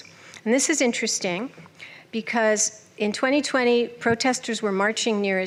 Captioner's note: none